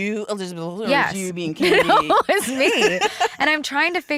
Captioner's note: laughs